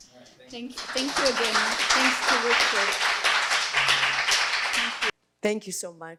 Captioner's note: audience applauding